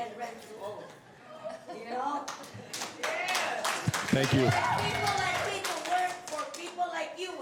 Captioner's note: cheers and applause